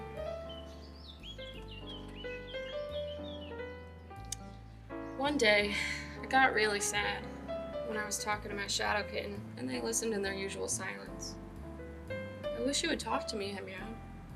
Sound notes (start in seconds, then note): 0.0 birds chirping